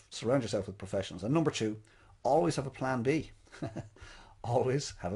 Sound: chuckles

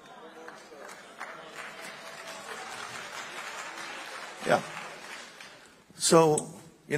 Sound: congregation applauding

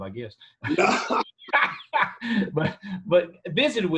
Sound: laughter

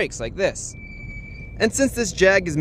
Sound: brake grinding noises

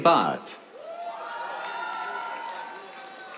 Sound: cheers, applause

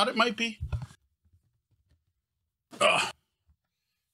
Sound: grunts

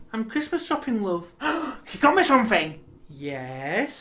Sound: gasp!

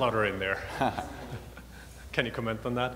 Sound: laughs

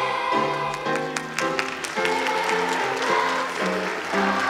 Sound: audience applauding

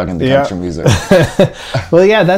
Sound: laughter

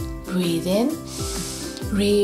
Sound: breathes in deeply

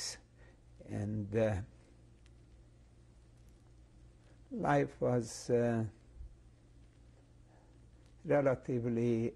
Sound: pauses for 3 seconds

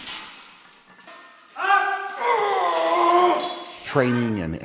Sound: grunts with effort

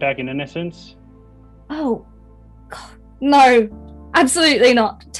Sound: scoffs

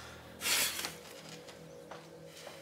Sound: sighs

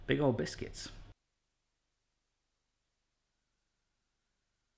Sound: silence

